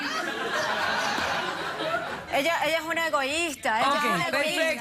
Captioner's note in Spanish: risas